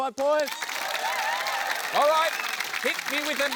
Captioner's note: cheering, applause